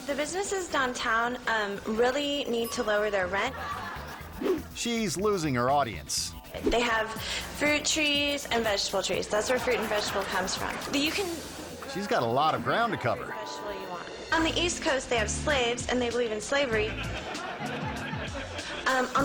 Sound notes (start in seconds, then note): 2.5 bell dinging; 3.3 audience laughing; 4.3 air whoosh; 16.7 audience laughing